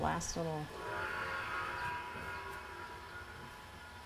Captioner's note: gong blaring